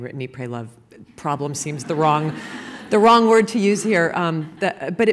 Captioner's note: laughter